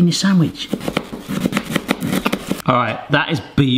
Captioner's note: knife taps